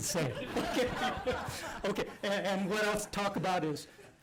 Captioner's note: laughter